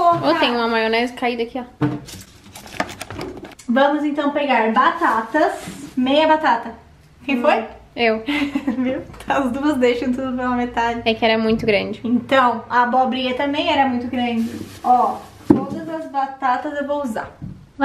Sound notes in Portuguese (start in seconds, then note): 8.2 rindo